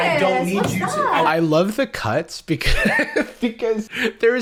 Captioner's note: laughs